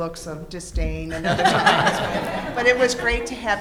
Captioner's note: laughs